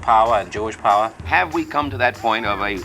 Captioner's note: soundbite of archived recording